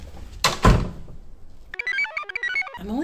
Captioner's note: door clunks; computer chirps